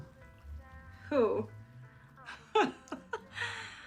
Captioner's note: laughs